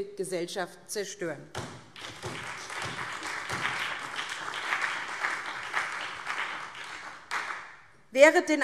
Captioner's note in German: Beifall SPD und vereinzelt BÜNDNIS 90/DIE GRÜNEN